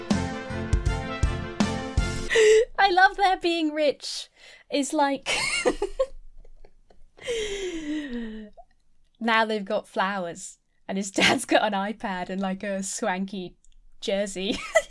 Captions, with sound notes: - I love their being rich. It's like (giggles) now they've got flowers and his dad's got an iPad and a swanky jersey.